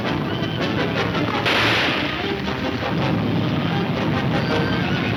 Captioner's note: gunshot banging